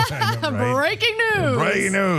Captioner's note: laugh